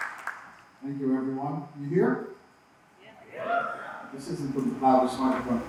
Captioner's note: cheers